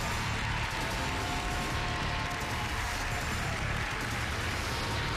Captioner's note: applause